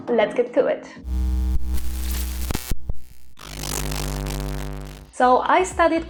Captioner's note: glitch sounds